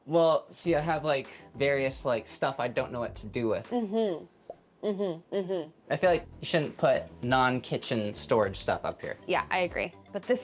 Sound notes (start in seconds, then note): 4.8 hums